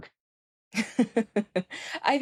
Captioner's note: chuckles